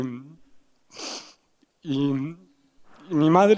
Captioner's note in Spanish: Solloza